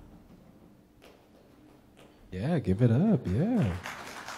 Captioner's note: audience clapping